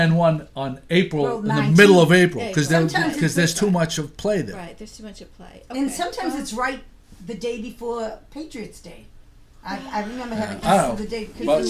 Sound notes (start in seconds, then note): 4.6 voiceover; 11.6 voiceover